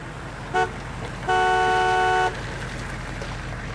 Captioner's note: horn honking